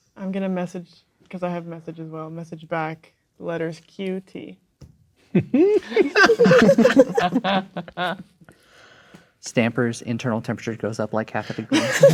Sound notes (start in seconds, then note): 5.4 players laughing